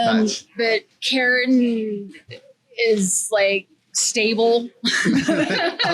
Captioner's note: laughs